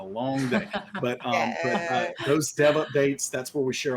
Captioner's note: laughs